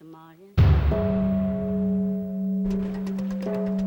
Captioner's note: bell tolling